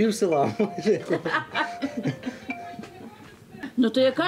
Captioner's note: all laugh